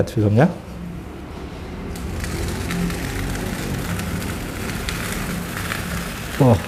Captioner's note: PET film noise